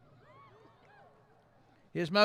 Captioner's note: cheering